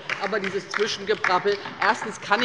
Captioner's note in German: Beifall bei der LINKEN